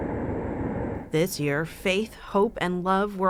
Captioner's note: voice-over